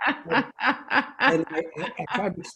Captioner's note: laughs